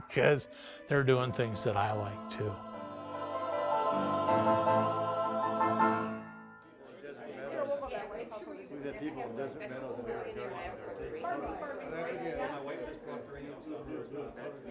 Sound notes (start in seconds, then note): 6.8 people chattering